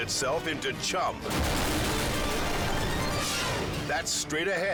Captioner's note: helicopter crashes